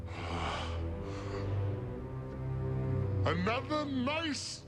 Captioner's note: sighs